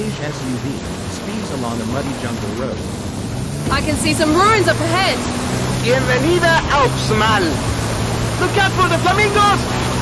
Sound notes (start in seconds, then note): none